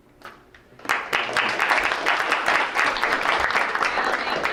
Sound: crowd applauds

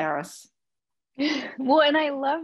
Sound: laughs

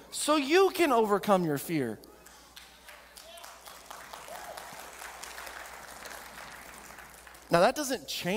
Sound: audience clapping

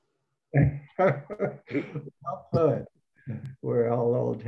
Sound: laughs

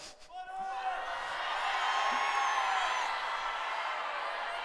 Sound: shouting

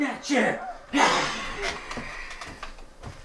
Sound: murk hisses

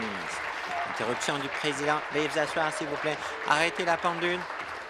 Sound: applause

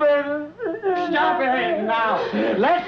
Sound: crying

